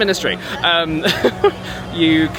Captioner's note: laughs